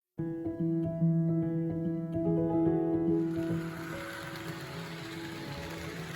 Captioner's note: music and Diesel Engine Sounds